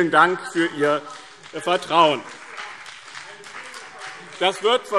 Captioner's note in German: Beifall BÜNDNIS 90/DIE GRÜNEN und vereinzelt CDU